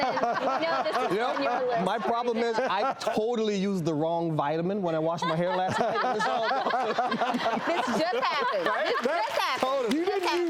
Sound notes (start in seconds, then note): 0.0 all laughing; 4.8 all laughing